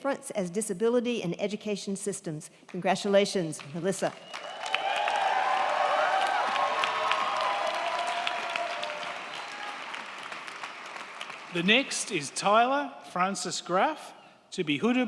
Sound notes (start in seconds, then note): 4.1 crowd clapping; 4.2 crowd cheering